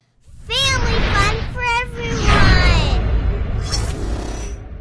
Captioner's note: mechanical sound